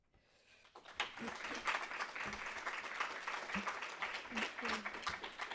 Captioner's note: crowd clapping